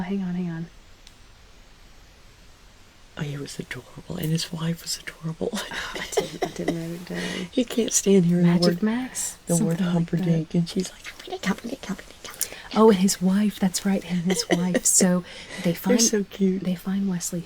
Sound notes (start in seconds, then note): 0.6 uncomfortable silence